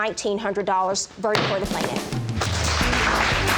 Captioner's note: gavel banging; applause